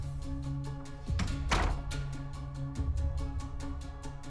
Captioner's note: door thuds; dramatic music continues